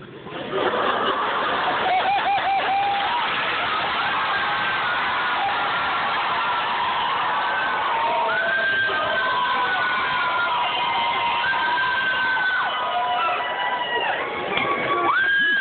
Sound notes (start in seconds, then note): 0.2 laughter; 1.2 cheering; 14.8 cheering